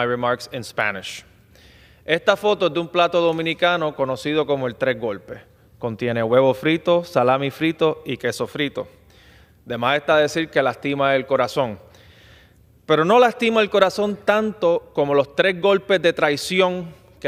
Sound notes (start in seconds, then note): 5.1 speaking spanish